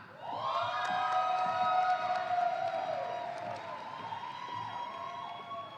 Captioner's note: audience applauding